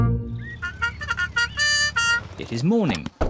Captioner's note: both giggle; car horn